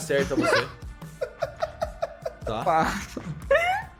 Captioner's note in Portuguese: risadas